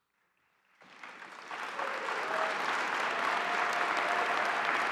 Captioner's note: audience applauding